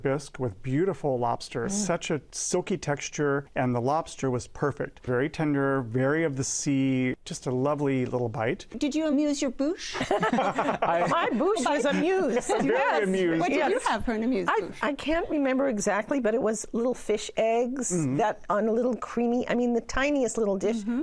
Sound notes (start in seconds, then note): 9.9 laughter